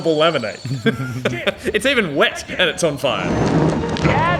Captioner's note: chuckling